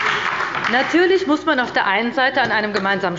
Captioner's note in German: Beifall bei der LINKEN und der FDP sowie bei Abgeordneten der SPD